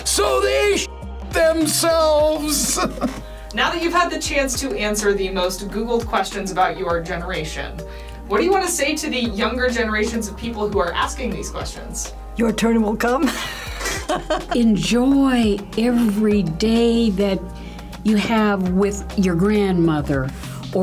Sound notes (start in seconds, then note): 2.5 laughs; 13.3 laughs